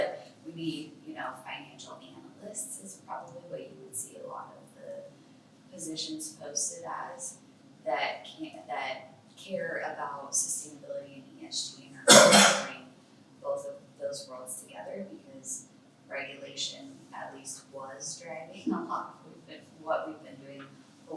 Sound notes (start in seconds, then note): 12.1 coughs